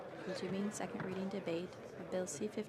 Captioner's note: speaking French